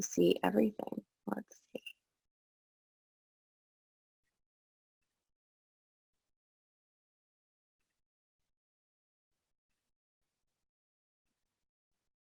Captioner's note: pause